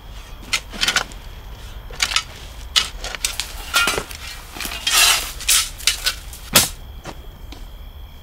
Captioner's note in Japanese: 土をスコップで掘ってかける音